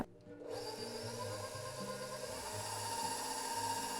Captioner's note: whirring